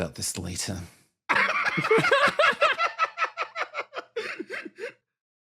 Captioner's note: laughs